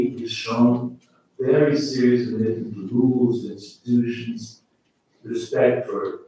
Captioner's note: faintly speaking